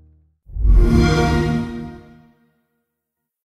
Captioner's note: xbox sound